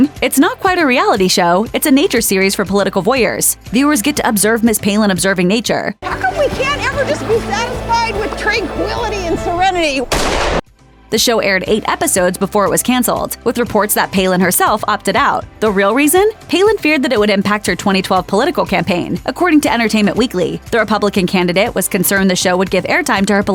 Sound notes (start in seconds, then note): 10.1 gunshot